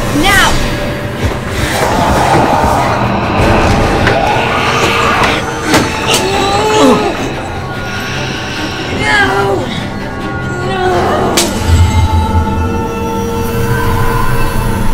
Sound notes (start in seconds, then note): 2.0 growling; 6.1 grunting